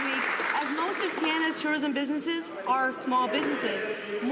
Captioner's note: some Applause